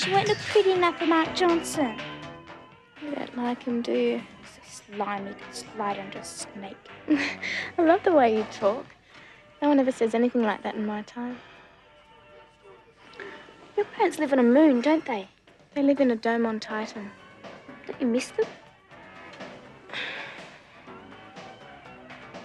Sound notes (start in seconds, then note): 7.1 laughs; 18.9 energetic rock music